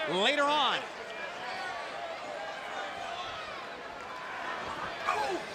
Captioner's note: crowd chatter